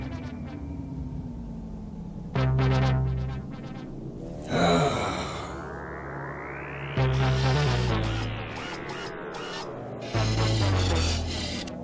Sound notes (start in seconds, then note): 4.3 Strobo sighs; 7.2 apprehensive music continues